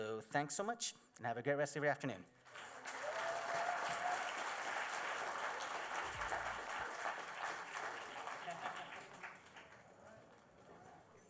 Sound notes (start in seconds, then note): 2.4 applause; 2.6 crowd cheering